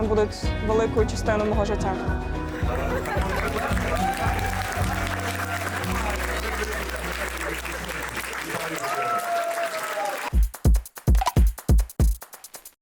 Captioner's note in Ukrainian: оплески